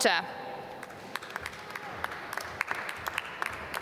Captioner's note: applause